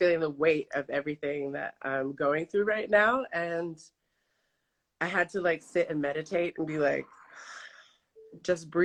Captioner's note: inhales